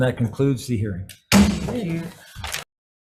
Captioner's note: gavel bangs